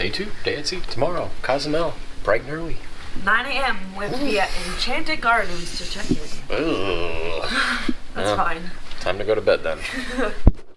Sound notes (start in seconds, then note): 5.3 groaning